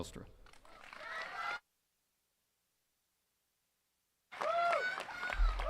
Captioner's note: attendees cheering and clapping